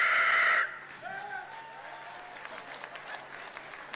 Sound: audience starts to clap and cheer

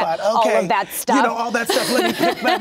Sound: laughs

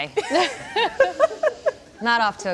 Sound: laughing

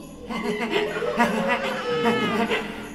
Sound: Wiggly creepily giggles

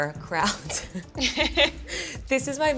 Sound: laughing

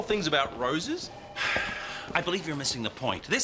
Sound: sighing

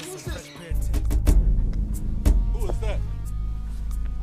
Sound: knock on door

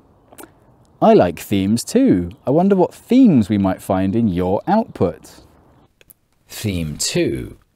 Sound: sigh

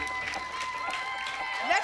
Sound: applause and cheering

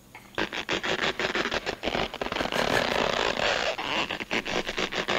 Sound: elastic stretching sound effect

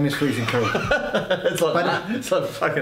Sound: laughs

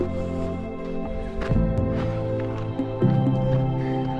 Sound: panting

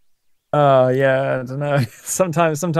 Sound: laughs

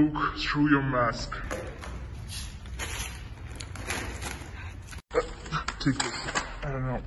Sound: loud rummaging

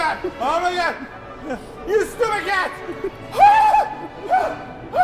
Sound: more screams

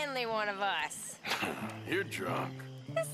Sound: laughs

